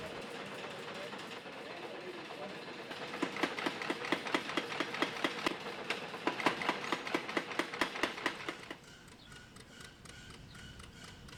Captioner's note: machinery running